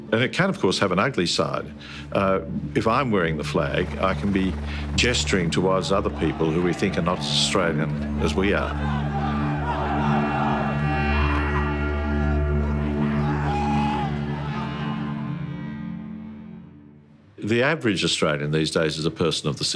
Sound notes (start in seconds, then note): 8.7 crowd chants